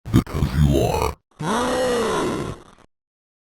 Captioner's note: demon growling noise